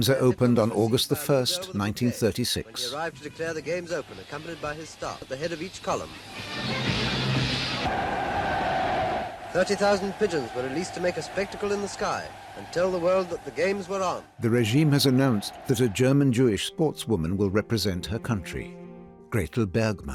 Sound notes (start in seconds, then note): 6.9 crowd cheers; 6.9 festive orchestral music playing